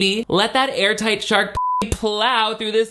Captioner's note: beep